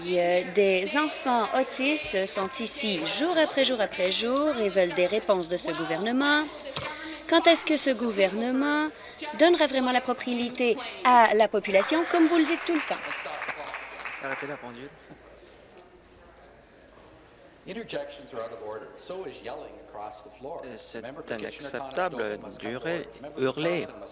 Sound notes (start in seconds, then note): 14.7 applause